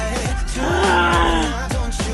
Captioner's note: gasp